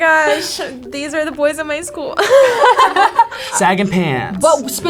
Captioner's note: laughs